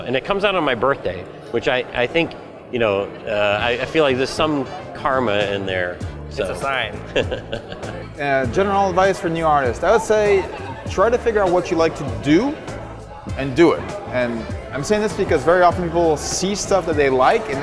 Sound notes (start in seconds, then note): 7.0 chuckle